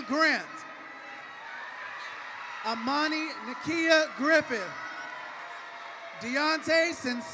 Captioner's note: cheering and applause